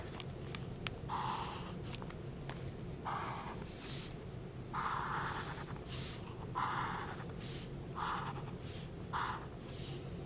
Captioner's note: marker scratching